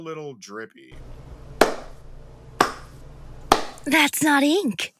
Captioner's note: Off screen, Blaire is clapping